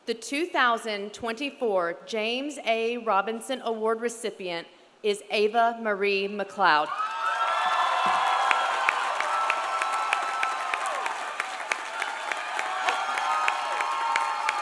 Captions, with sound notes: The 2024 James A. Robinson Award recipient is Ava Marie McLeod. (audience cheering) (audience applauding)